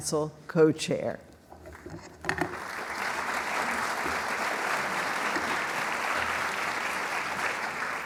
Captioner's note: applause